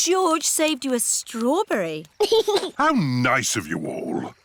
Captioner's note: giggles